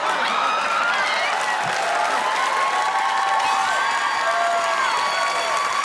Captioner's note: audience applauding; crowd cheering